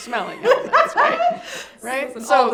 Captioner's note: laughing